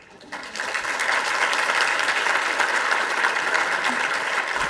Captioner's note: audience applauding